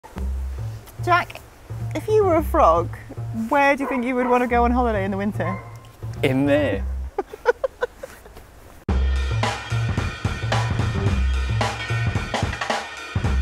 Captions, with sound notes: - Jack, if you were a frog, where do you think you would wanna go on holiday in the winter? - In there! - (laughs) (upbeat drum riff)